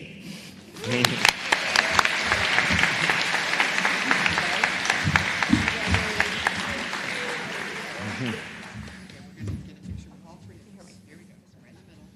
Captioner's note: applause